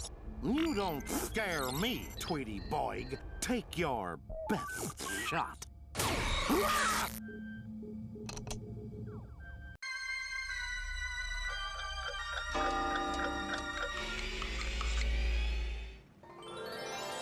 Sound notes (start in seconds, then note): 6.0 screaming; 11.5 clocks chiming